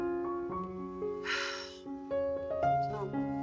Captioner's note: sighs